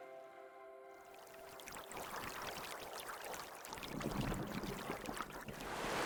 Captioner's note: water trickling